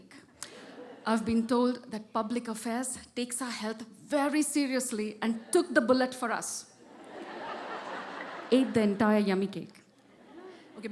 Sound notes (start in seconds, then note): 6.8 laughter